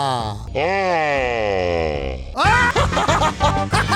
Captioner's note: laugh repeated; repeated again, distorted